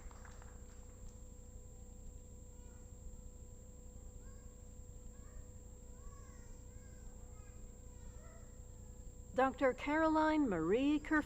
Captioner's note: applause